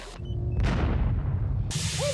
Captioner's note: explosion